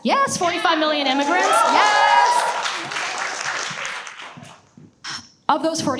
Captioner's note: audience cheers and applauds